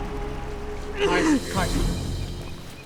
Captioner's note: Caius grunting